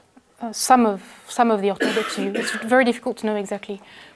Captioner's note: cough